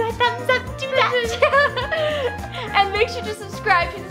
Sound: both laugh

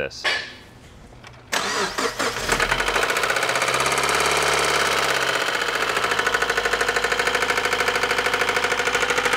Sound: engine noise

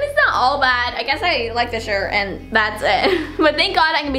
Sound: laughing

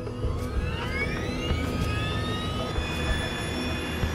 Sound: engine whirring

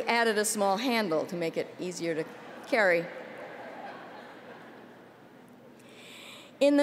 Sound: laughter

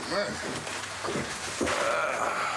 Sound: groan

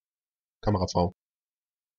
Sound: fast Pronunciation

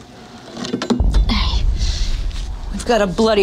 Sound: metal clattering

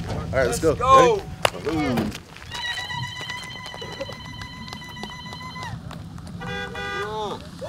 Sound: victory shouts and Lu-Lu's

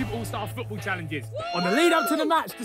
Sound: players cheer

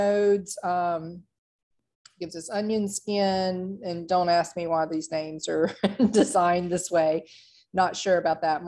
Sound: laughter

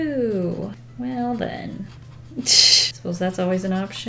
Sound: laughs

